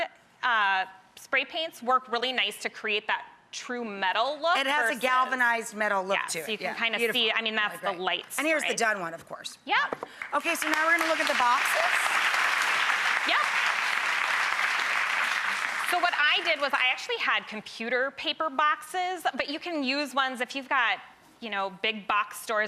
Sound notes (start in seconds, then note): 10.1 applause